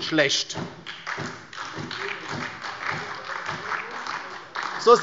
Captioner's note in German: Beifall bei der LINKEN und der SPD